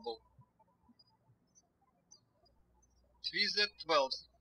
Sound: birds chirping

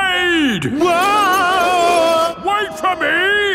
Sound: yelling

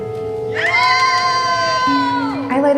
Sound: cheering

